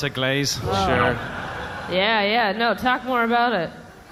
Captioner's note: drooling